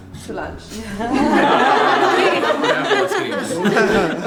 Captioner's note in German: Lachen